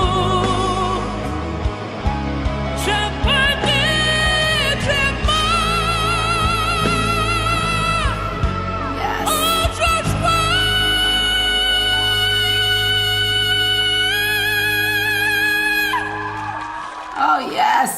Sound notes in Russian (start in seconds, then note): 6.3 пение; 15.9 крик